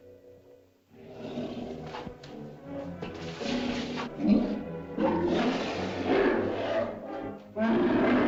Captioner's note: suspenseful music; mastodon grunts and growls; mastodon bellows; suspenseful music